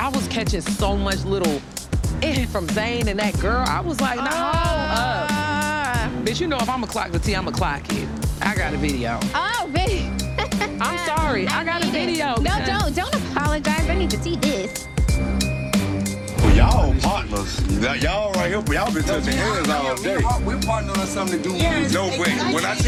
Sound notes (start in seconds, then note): 10.2 laughing; 16.2 curious music